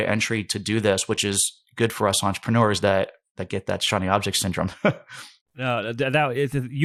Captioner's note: laughs